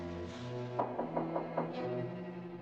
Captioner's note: knocking on door